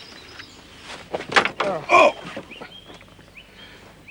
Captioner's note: grunts